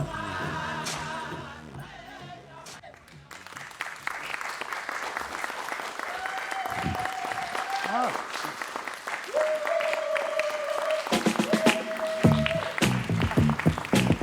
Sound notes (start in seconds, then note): 2.9 applause; 5.8 cheering